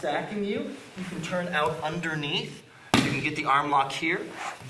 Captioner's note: strong tapping